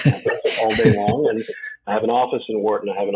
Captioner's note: chuckles